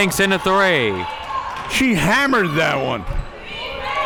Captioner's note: audience cheering